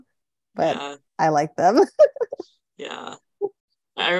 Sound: chuckling

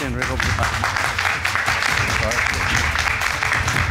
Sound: audence applauding

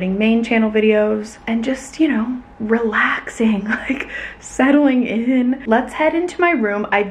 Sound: laughing

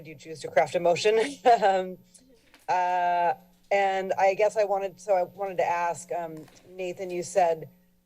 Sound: chuckles

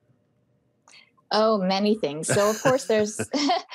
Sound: on phone

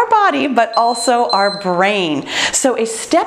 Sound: timer beeps

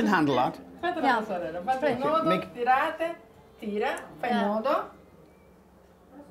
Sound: speaking Italian

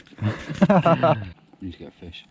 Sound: laughing

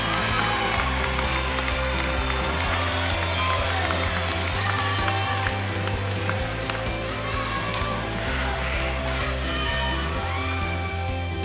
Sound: cheers and applause

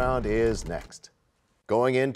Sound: crashing sound

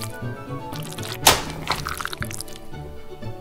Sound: squelching noises; wet plop

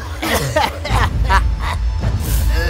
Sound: laughs Hysterically

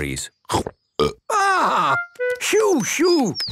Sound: burps

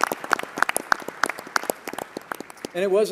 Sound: applause

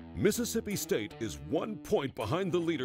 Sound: voiceover

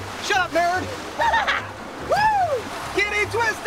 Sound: laughter

